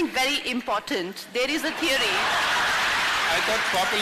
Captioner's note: laughter